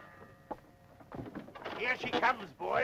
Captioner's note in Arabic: رنين الجرس